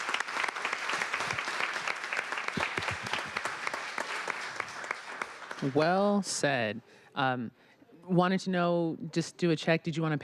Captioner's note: applause